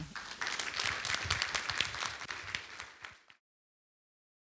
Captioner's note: applause